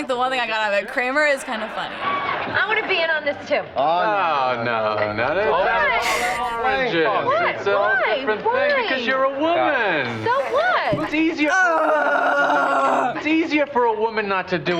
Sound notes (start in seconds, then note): 10.0 groans